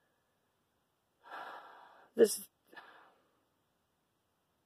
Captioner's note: sigh